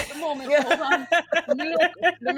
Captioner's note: group laughs